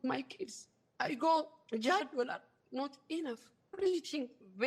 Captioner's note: non-english